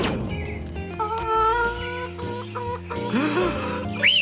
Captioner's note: bird crows; whistles